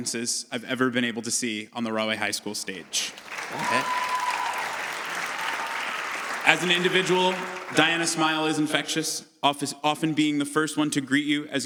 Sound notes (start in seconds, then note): 2.4 audience cheers